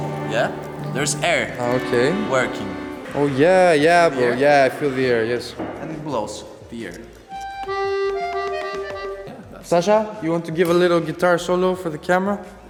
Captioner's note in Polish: Aplauz